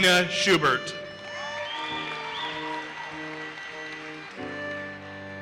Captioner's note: audience cheers and applauses